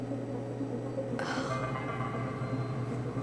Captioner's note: groans softly